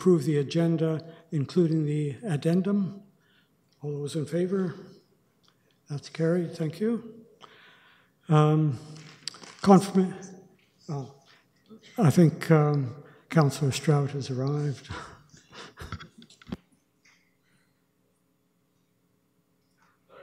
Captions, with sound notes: approve the Agenda, including the Addendum? All those in favour? That's carried, thank you. Confirmation--oh. I think Councillor Stroud has arrived. [chuckles]